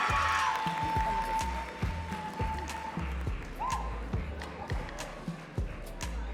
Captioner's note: audience cheering and clapping